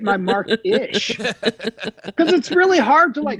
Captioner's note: all laughing